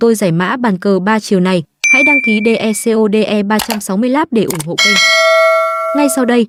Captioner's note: bell rings